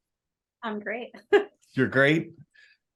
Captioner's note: laughs